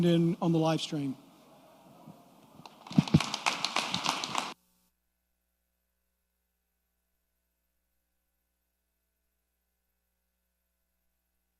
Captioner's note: applause